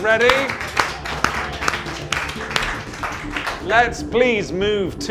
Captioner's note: everyone claps